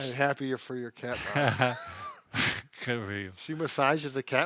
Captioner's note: laughs